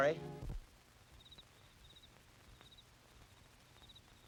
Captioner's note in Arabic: تغريد الصراصير